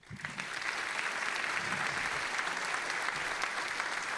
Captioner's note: all applauding